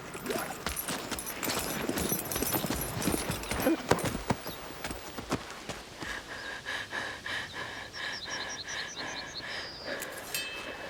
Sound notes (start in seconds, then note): 5.9 breathing heavily